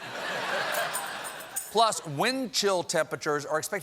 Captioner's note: laughter